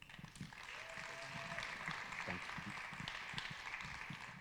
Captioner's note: audience applauding